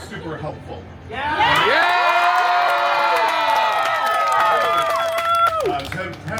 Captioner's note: guests cheering “Yeah!”